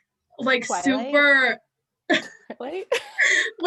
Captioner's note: chuckles